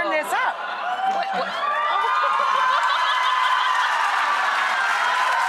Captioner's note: audience members cheering